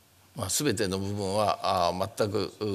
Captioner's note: speaking japanese